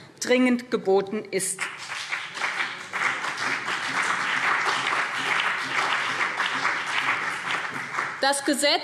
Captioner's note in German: Beifall BÜNDNIS 90/DIE GRÜNEN und vereinzelt CDU